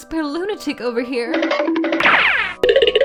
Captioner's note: funky noises